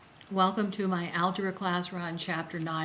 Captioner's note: voiceover